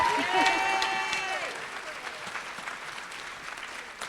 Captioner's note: applause